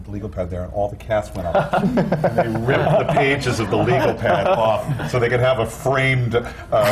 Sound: laughter

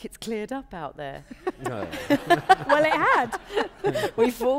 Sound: laughter

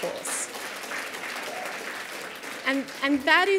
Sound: applause

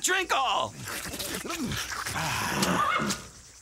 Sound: slurping

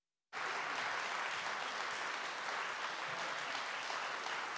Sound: audience clapping

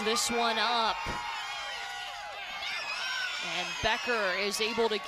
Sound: cheering

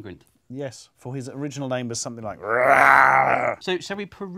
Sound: growls

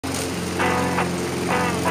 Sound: lawn mower sounds

